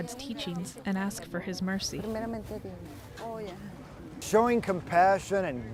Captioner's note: in foreign language